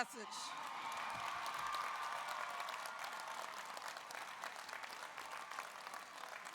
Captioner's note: audience cheers; audience applauds